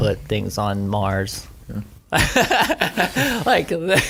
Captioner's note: laughter